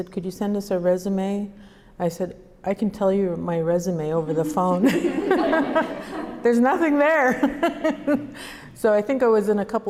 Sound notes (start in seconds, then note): 4.3 laughter; 7.3 laughs